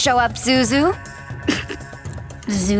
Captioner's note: snickering